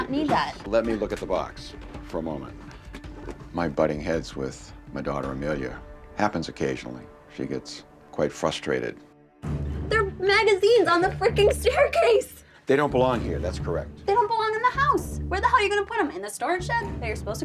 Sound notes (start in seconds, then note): none